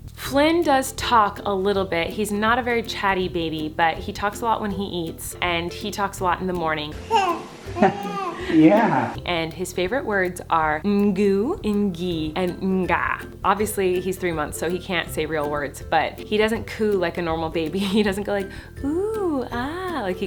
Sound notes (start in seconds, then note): 7.0 baby cooing; 7.7 chuckles